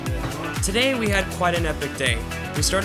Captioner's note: voiceover